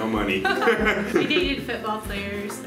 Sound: laughing

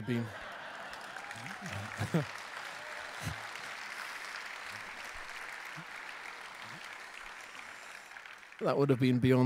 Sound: LAUGHTER and APPLAUSE

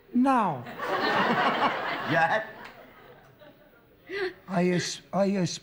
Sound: laughter

